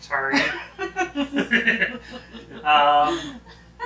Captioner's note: both laughing